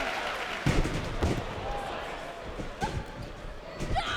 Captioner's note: canvas thuds; wrestlers shout